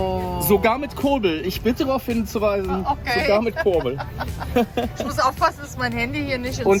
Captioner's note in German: gelächter